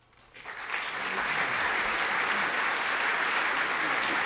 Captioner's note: audience applauding